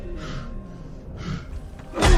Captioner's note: explosion